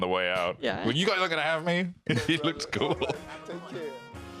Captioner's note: laughs